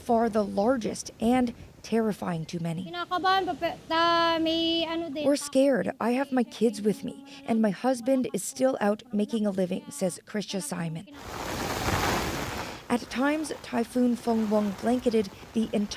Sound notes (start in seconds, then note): 10.9 speaking alternate language